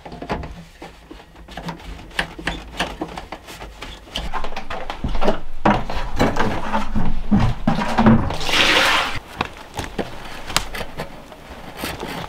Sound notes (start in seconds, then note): 1.7 pipe creaking; 3.9 bucket rattling; 7.6 water splashing